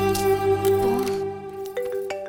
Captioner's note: frustrated